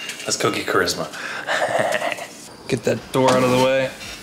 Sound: chuckles

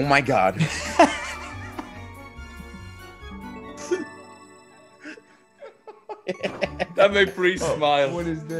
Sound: laugh

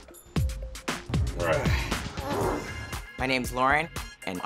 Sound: grunting

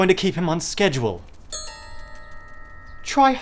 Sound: tink Bells

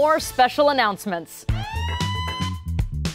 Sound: alarm blaring

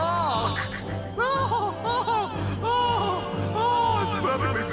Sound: laughs

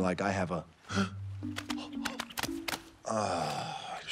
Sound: Maui gasps

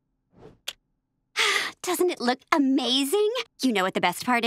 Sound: sighing

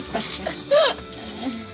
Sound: both Laughing

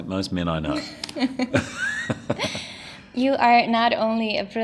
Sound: chuckles

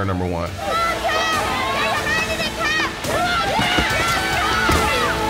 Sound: on-lookers yelling

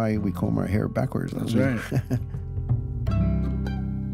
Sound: laughs

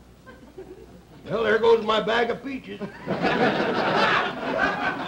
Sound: audience laughter

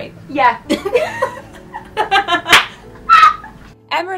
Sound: both laugh

